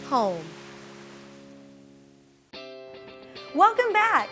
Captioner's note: waves crashing on beach